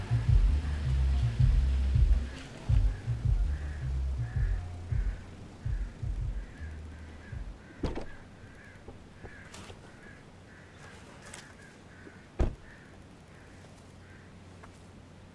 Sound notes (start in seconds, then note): 0.0 upbeat music on car radio; 0.0 vehicle humming; 7.8 car door clicks; 12.4 car door thuds